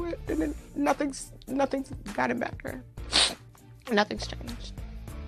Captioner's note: sniffle